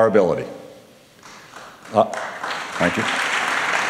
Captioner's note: applause